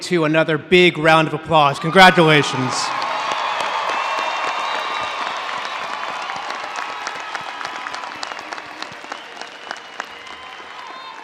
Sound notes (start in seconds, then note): 1.9 audience cheering and applauding